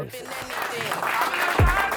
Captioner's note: audience applauding